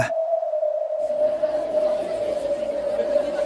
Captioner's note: chatter